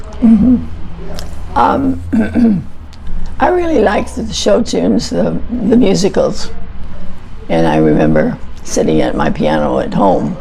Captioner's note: clears throat